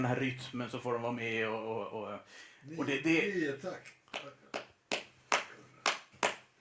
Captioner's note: claps 2+2+2+3